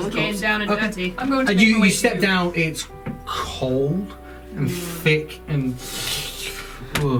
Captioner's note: squelching noise